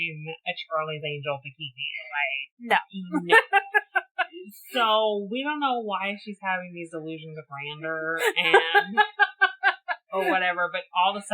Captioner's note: laughs